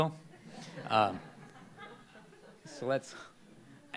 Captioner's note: laughter